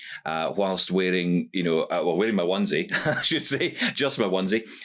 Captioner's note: chuckles